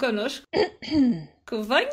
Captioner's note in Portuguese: d.maria das dores aclara a voz